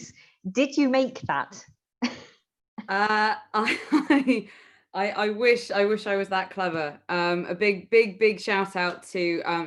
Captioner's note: laughter